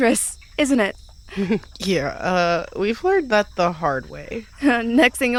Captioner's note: laughs